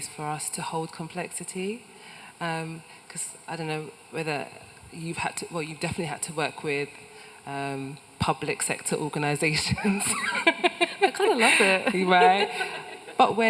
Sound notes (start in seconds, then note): 10.2 laughs